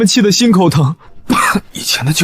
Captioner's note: cough